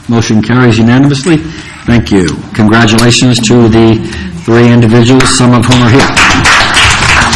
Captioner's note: applause